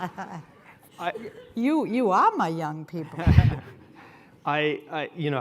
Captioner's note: laughs